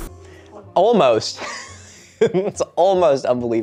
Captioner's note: laughs